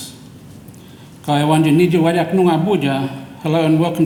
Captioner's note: speaks in foreign language